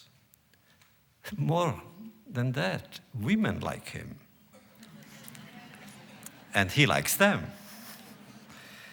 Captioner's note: laughter